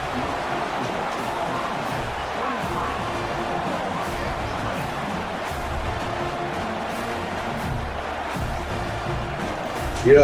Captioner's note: crowd Noises